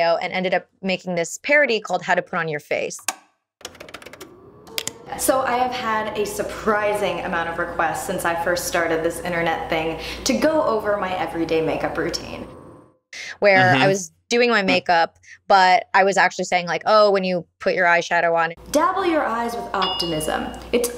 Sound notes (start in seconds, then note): 3.6 tape deck clicking